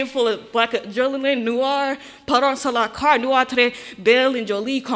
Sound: speaking in foreign language

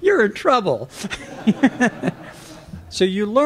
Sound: laughter

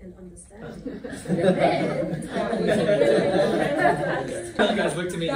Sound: laughter

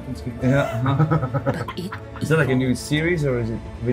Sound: laugh

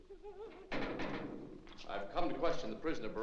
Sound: woman whimpers; door closes

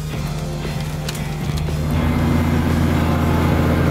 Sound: engine roaring

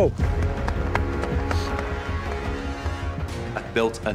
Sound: clapping

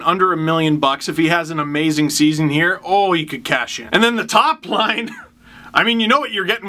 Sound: laughs

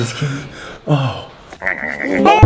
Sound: sighs; laughs

